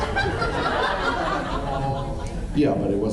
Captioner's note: laughs